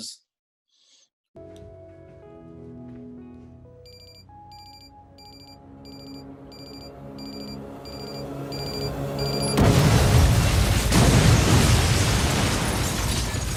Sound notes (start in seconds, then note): 2.9 gentle music; 2.9 phone ringing